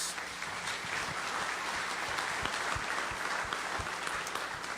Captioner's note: audience applauding